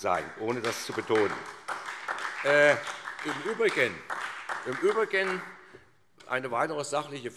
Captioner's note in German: Beifall SPD